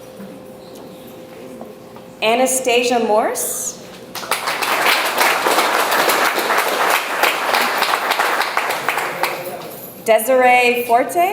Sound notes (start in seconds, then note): 4.0 audience applauds